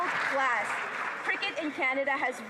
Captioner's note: applause